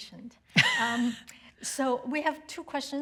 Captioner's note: chuckles